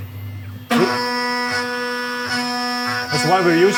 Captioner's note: machine buzzing